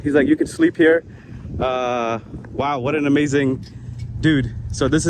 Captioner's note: none